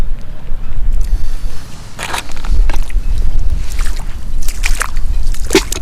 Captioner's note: clamps clapping in bucket